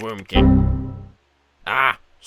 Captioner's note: computer error